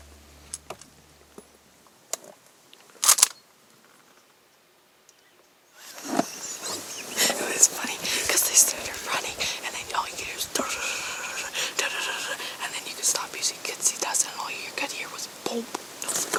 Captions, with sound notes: It's funny They started running, and then all you hear is [stampede sounds] And then they stop. And all you could hear was plop